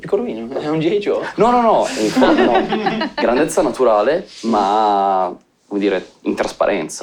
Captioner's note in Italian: Risate